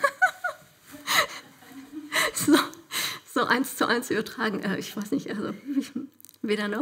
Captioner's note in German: lacht